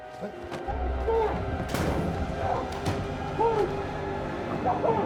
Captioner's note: muffled yelling